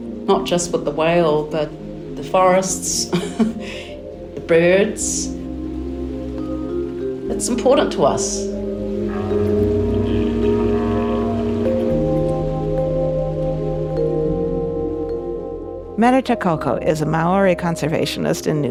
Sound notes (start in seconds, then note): 3.0 chuckling; 9.5 tranquil music; 9.5 whale calling